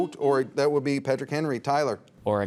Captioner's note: buzzer dings